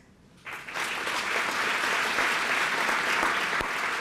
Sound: applause

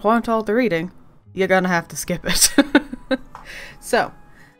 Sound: laughs

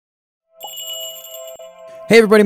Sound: magical jingle

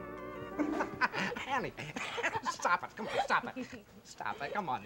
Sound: Ken, laughing

